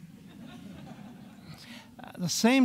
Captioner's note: audience laughing